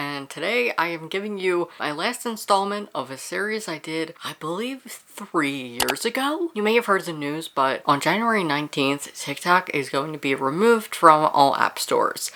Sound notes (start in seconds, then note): 5.8 mouse click